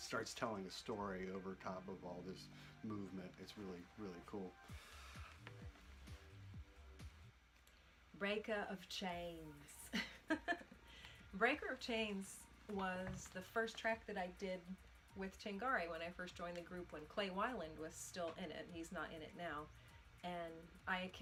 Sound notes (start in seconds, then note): 9.9 laughs